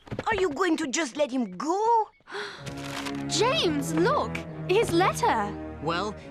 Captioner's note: gasps